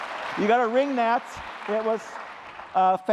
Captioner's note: applause